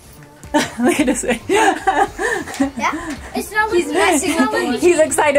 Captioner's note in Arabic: يضحك